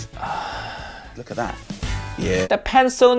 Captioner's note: Uncle Roger sighs